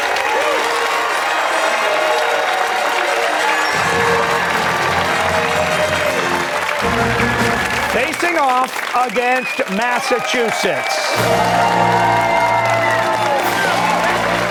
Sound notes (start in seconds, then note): 0.0 fanfare; 4.5 cheers and applause